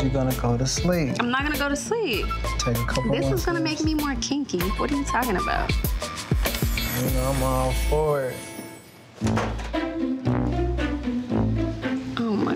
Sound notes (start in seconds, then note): 6.4 door creeks; 9.2 intense dramatic music